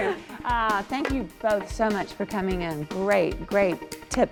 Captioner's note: laughing